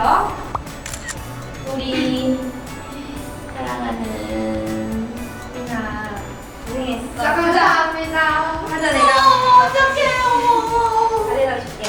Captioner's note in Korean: 찰칵